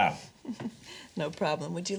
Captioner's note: chuckles